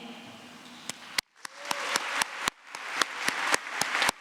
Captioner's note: applause